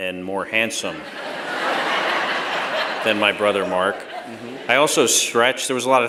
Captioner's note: laughter